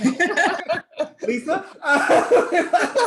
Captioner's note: all laughing; laughs